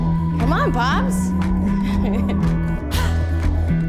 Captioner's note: laughing